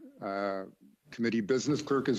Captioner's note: speaking in French